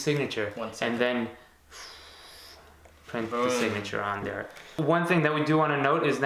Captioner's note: exhaling